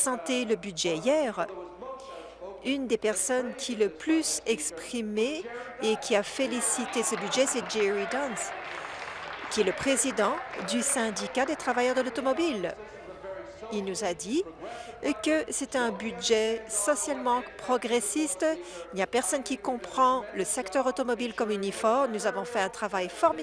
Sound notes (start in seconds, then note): 13.2 applause